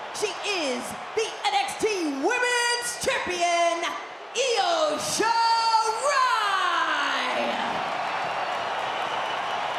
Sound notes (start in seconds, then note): 5.3 crowd cheers